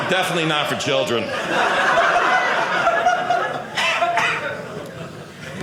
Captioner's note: audience laughing